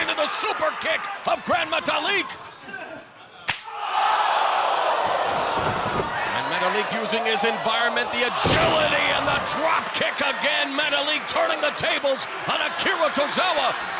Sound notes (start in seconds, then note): 3.9 crowd exclaiming